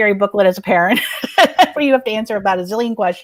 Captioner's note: laughs